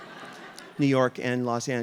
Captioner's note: audience laughing